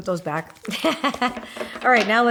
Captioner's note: laughing